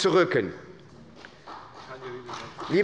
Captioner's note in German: Beifall bei der SPD und bei Abgeordneten des BÜNDNISSES 90/DIE GRÜNEN